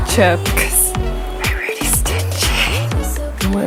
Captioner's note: whispers